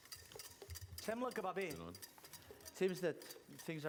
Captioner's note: non-english speech